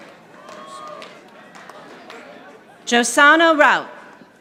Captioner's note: audience applauding